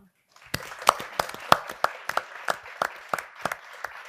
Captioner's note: audience applauding